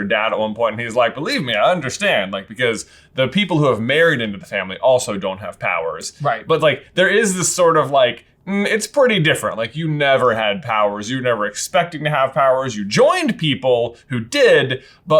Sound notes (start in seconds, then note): none